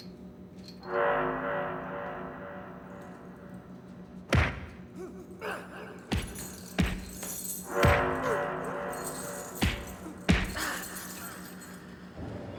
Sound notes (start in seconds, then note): 4.3 blows connecting, grunting